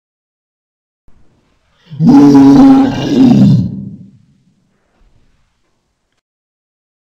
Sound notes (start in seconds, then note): 0.0 sound of monster